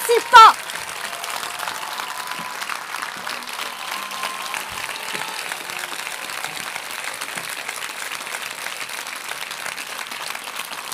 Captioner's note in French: Applaudissements